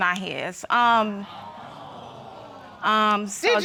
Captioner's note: audience exclaiming